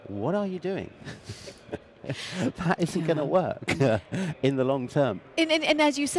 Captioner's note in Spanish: Risas